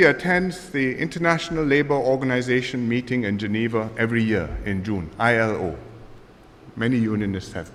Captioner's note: none